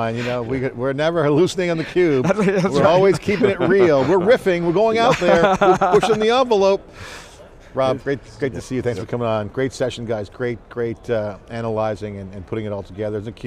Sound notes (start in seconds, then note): 1.6 laughing